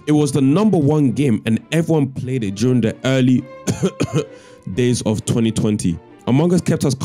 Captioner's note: cough